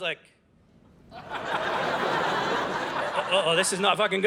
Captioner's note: audience laughing